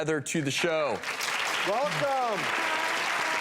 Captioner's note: applause